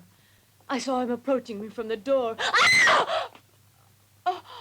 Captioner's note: screams; Corinne pants